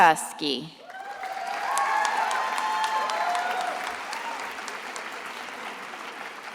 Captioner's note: attendees applauding and cheering